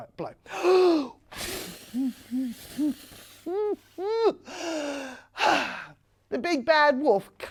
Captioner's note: blowing air sounds can be heard